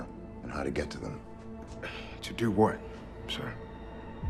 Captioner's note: sighs